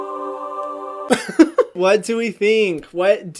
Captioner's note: laughs